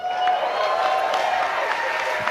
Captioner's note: cheering